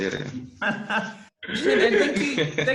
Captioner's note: laughing